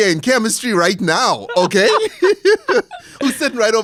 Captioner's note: laughs